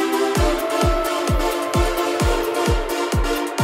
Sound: SFX: "Doo, Doo, Doo"

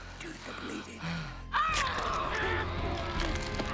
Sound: exclaims painfully; yells

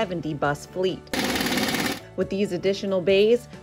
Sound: power tools cranking

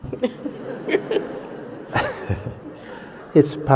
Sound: laughter

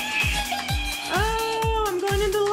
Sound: screeches

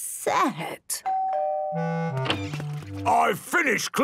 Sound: doorbell dinging

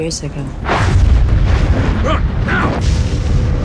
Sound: explosion

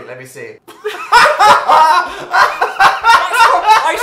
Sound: both Laugh

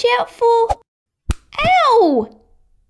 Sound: smack!

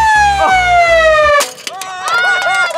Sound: siren crashing; laughing

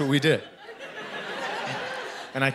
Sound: laughter

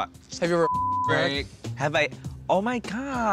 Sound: beep

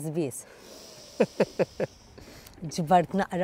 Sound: laughs

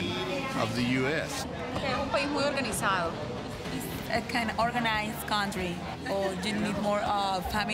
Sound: speaks spanish

